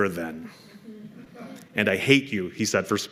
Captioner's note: laughter